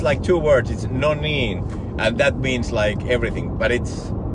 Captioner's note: foreign language